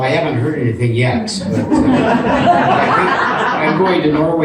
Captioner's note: audience continues laughing